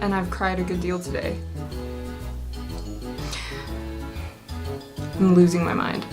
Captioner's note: deep breath